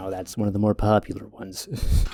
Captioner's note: haughty voice